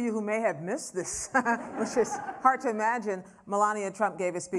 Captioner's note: laughter; laughs, laughter